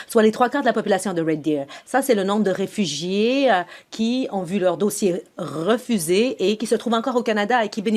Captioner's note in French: voix de l'interprète